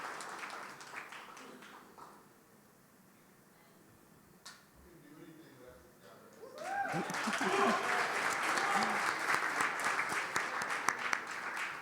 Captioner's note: applause